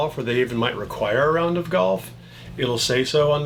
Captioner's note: none